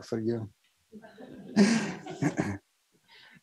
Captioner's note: laughter